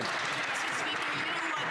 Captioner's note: some Applause